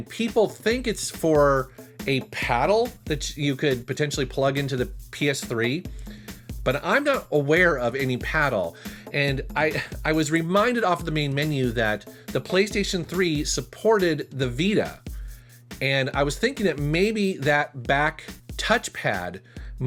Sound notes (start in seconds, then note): 9.7 chuckles